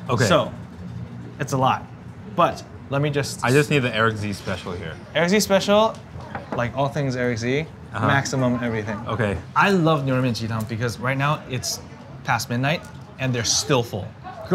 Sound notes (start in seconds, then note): none